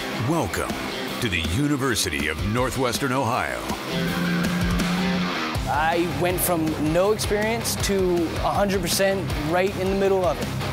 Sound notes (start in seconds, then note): 0.0 rock music begins; 3.8 car engine roaring